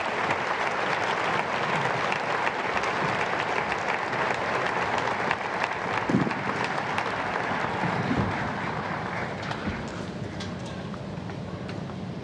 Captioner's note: applause